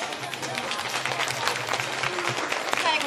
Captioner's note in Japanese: 拍手